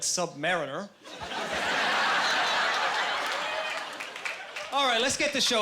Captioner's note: laughing